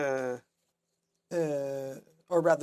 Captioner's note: speaking French